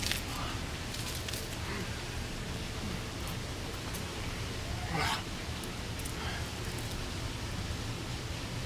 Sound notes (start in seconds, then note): 4.8 growls